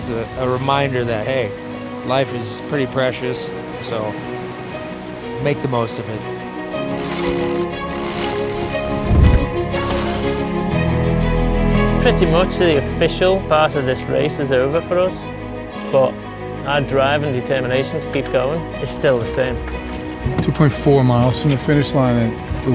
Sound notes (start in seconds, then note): 6.8 ropes winding; 9.8 triumphant music